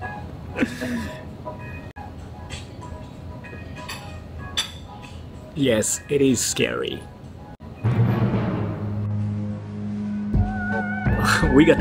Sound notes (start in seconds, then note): 7.7 dramatic sound effect; 10.6 spooky music